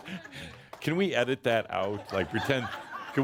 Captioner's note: laughter